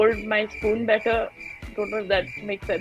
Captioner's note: cricket sounds